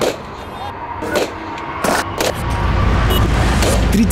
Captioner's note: нарастающий шум